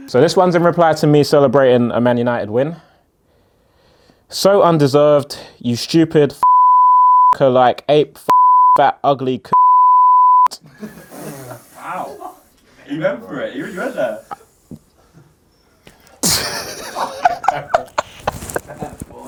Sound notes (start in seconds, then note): 6.4 beep; 9.5 beep; 16.2 laughs